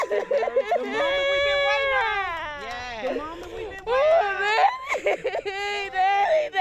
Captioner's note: cheers